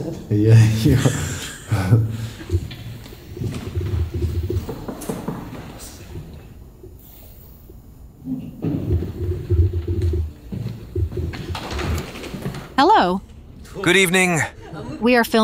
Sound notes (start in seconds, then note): 4.8 knocks on door; 8.3 sound of footsteps